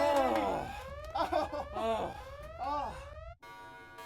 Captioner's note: laughing